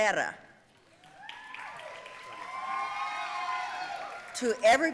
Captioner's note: audience cheering and applauding